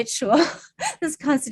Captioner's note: chuckles